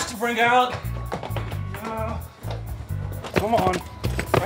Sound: grunts

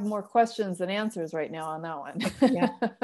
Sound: laughter

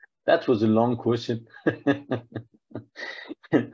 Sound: laughs

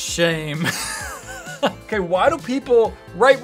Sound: laughs

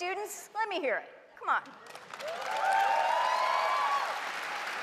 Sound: cheers and applause

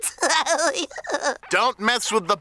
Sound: giggles

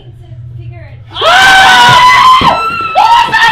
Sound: screams

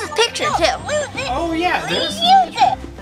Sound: toy chirping

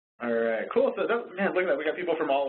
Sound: voiceover

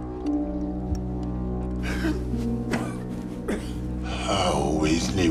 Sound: Quentin coughing

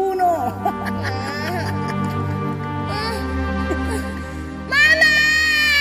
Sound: laughs; Michael whimpers; wails

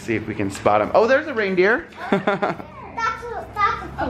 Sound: laughs

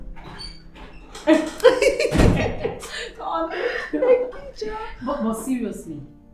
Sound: laughter

